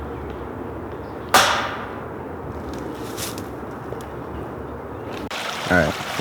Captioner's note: banging sound